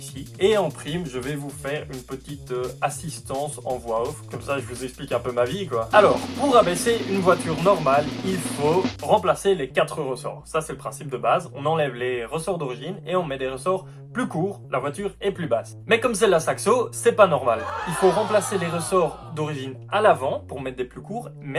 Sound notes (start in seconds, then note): 17.6 ooooooh